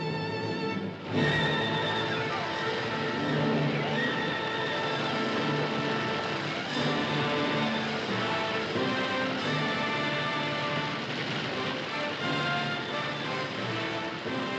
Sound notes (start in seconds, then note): 0.0 dramatic music; 0.9 fire roaring